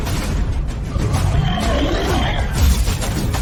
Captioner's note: war Drums; monster Roar / Gun Shot